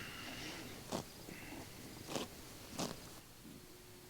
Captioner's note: grass tears